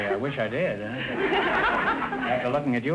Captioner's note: audience laughter